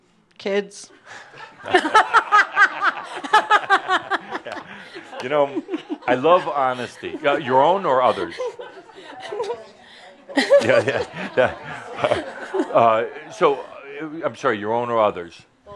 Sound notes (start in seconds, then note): 5.2 lots of laughter